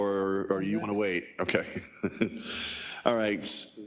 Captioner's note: laugh